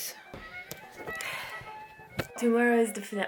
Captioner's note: sighs heavily